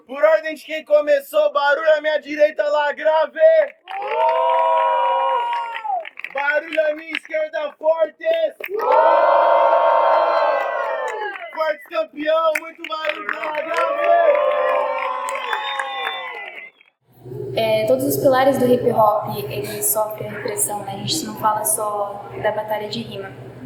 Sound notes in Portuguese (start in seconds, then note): 3.6 Plateia: palmas e assovios; 9.1 Plateia: palmas e assovios